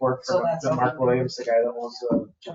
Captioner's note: people chattering